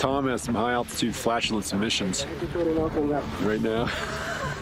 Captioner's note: laughs